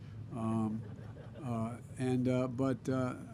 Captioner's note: laughter